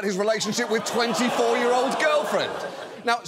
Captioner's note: audience groans